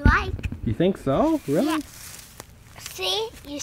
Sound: voiceover

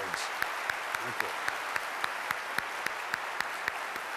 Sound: applause

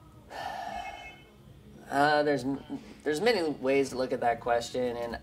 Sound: sighs

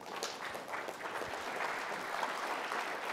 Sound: applause

